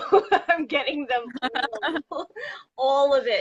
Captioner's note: laughs